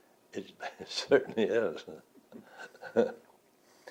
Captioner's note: laughs